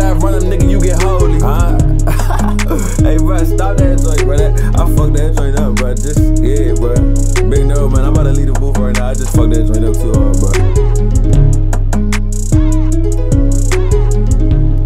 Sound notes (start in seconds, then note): 1.2 laughing; 11.3 upbeat music